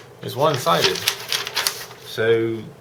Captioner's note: rustling paper